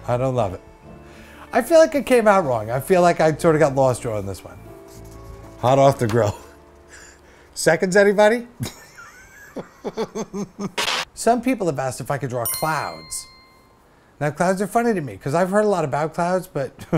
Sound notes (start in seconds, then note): 8.6 laughs